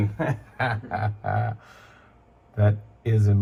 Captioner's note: laughs